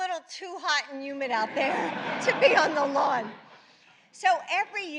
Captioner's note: laughter